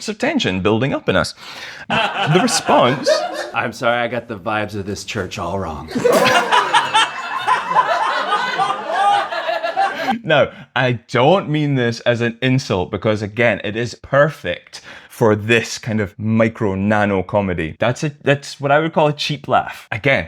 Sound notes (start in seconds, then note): 5.9 laughter